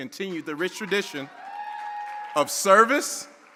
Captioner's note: audience cheering